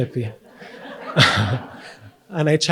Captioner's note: audience laughs